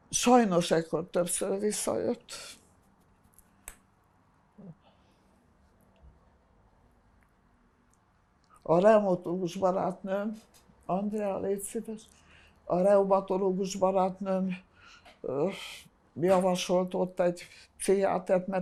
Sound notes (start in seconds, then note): 3.6 pauses 6 seconds